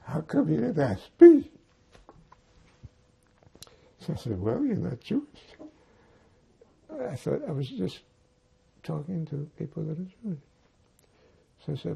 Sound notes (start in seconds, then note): 2.2 crying